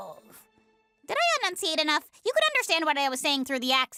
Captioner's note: regular voice